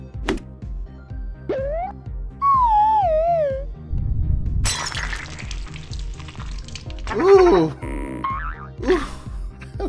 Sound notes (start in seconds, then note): 2.1 sad woosh